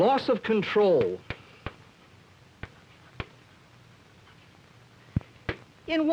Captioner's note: chalk tapping